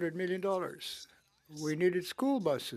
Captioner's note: speaking in French